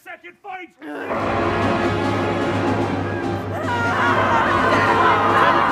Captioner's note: soldiers yelling